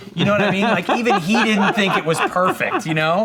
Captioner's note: laughs